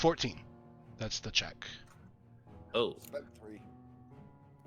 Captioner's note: none